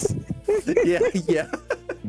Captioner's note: laughter